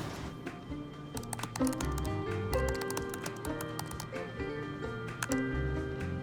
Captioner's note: keyboard keys clicking